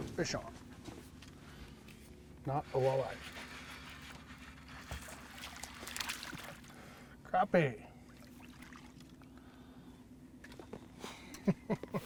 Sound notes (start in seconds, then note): 6.1 fish splashing; 11.2 chuckling